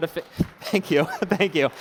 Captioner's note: applause